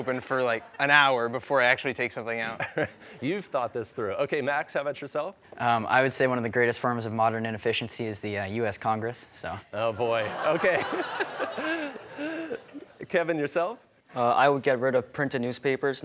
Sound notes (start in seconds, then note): 10.1 laughter